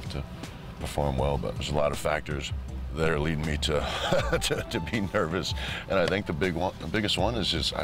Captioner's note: laugh